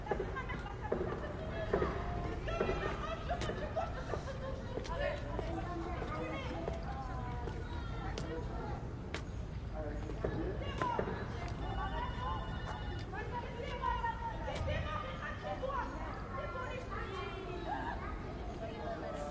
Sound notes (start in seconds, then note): 11.8 doorbell ringing; 14.2 shouting, chattering continues